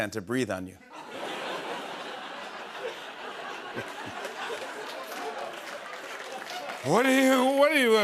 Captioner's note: laughter